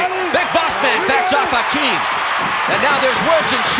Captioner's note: audience cheering